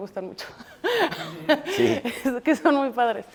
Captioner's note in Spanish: Risas